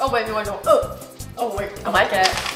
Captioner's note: gagging